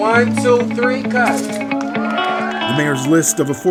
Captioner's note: applause